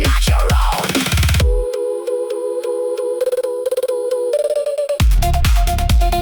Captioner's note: humming